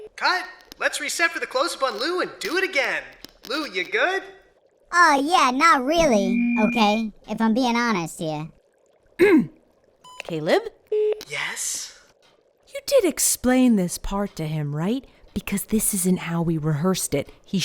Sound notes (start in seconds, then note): 9.2 clears throat